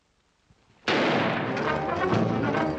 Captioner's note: gunshot